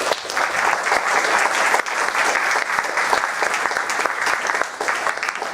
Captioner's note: applause